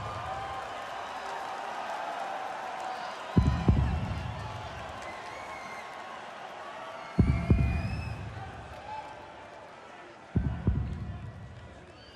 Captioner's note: crowd cheering